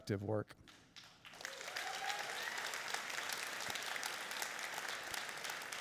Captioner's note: applauding and cheering